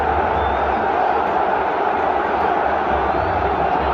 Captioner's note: cheers from the crowd